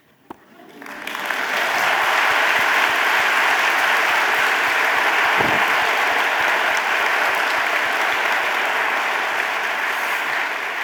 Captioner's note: audience applauding